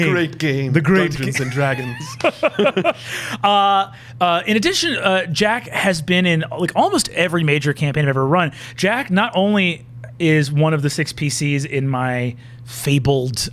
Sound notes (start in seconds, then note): 1.0 laughing